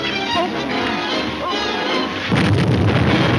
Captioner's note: banging